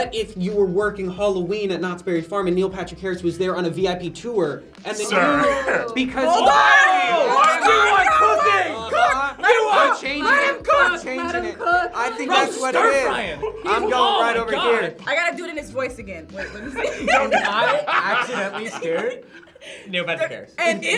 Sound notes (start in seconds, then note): 5.8 group yells; 16.4 laughs